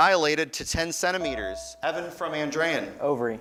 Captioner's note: beeping